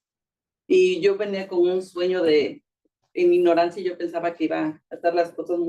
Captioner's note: speaking Spanish